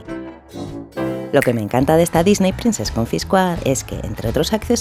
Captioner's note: snap